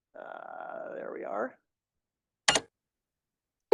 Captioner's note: click